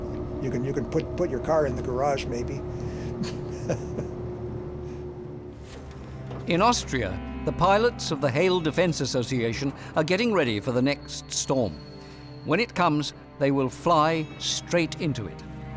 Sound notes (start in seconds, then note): 3.1 laughs